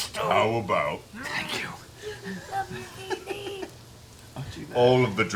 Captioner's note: whispering